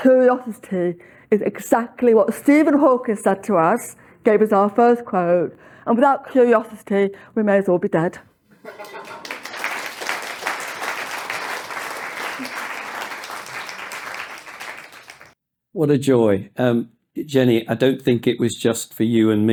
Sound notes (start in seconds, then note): 8.6 applause